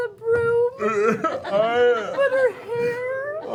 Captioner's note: sobs